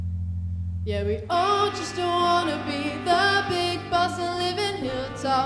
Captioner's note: Wendy clapping